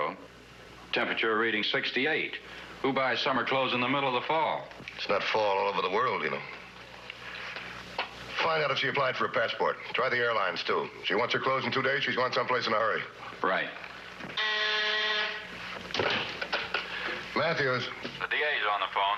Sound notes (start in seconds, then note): 14.3 phone ringing